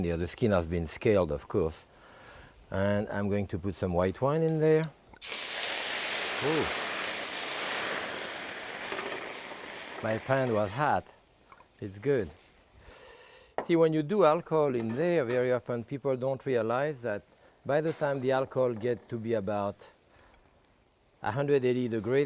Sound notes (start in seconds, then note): 5.1 wine sizzling